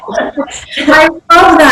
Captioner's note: laughing